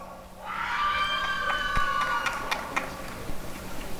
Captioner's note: applause and cheering